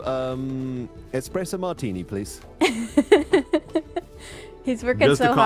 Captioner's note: giggles